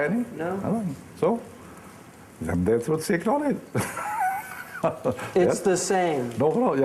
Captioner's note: laughing